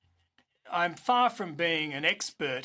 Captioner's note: speaking in French